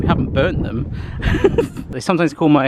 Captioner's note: laughing